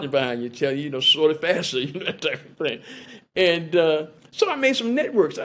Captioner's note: laughter